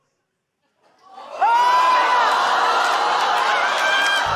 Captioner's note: audience exclaims